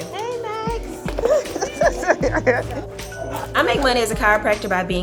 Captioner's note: laughs